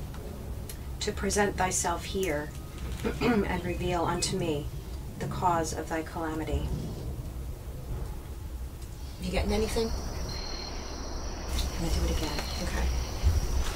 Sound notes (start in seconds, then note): 3.0 clears throat; 10.7 insects chirping